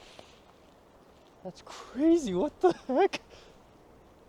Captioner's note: nervous chuckle